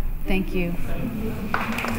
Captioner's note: applause